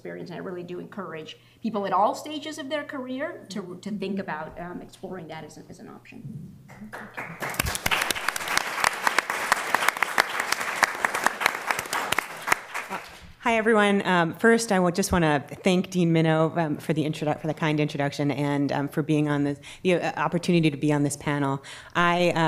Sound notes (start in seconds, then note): 6.8 applause